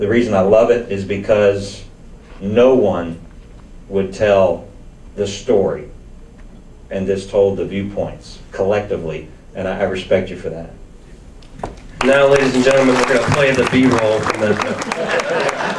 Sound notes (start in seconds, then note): 11.9 audience applauds